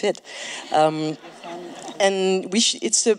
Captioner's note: laughs